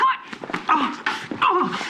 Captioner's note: scott groaning